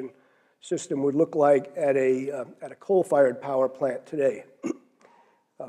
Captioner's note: cough